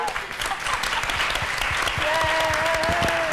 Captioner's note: applause